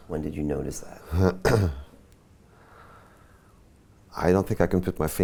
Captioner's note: clears throat